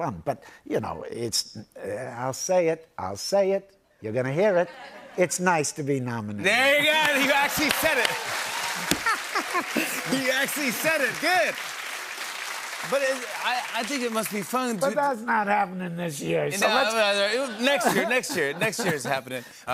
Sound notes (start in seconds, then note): 7.0 cheering and applause; 8.8 laughter